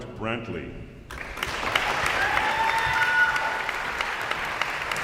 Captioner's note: audience applauds